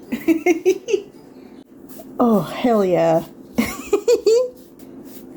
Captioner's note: giggling; more giggling